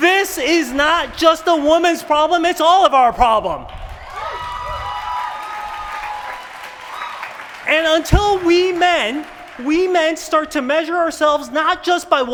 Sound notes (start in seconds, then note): 3.6 applause